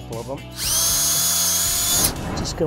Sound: drilling sound

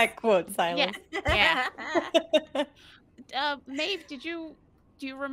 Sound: laughter

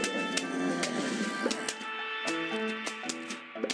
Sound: laughs

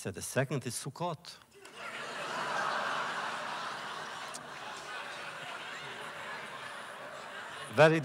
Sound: laughter

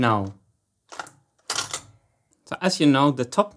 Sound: mechanism clicking

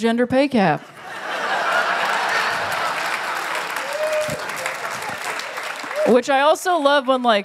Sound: laughter; applause

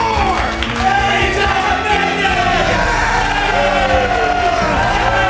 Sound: cheering

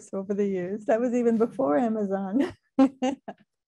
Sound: laughing

